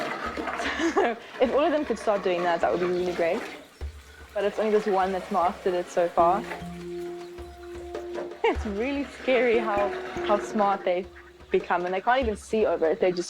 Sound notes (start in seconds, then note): 0.5 chuckles